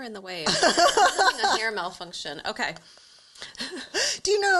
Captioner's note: laughs